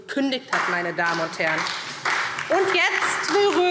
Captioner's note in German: Beifall SPD